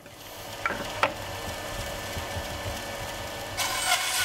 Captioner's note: soft whirring